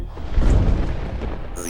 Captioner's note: thunder crashing